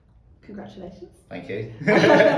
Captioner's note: laughing